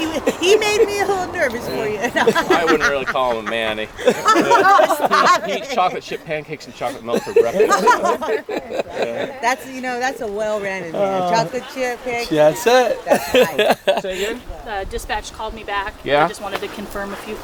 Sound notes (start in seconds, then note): 7.9 group laughing